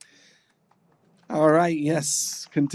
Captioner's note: applause